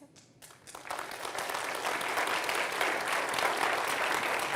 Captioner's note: audience applauding